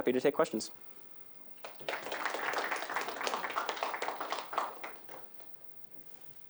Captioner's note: applause